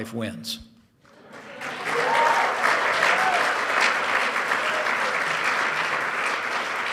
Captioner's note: applause